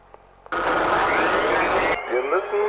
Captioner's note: Static; VON FRIES speaking German